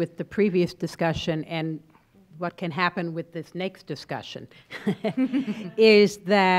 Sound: laughs

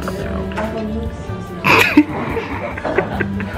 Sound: laughs

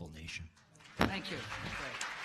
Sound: applause

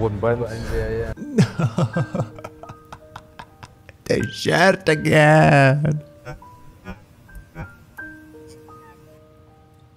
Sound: sobs

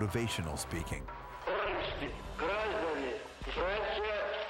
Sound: russian dialogue

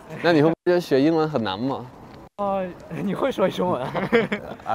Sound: speaking in foreign language; laughter

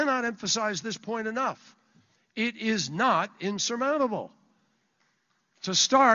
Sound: applause

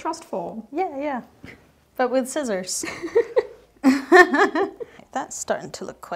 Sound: laughs

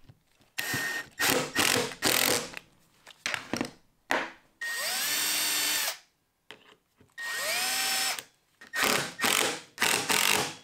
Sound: impact Drill being used to attach hinges

